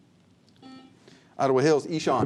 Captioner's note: buzzer